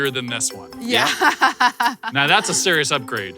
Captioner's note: laughs